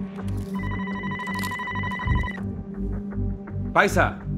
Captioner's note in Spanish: Suena el teléfono